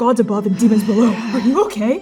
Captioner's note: groaning